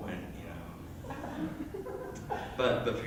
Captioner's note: soft Chuckling